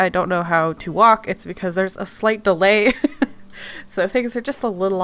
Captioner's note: laughs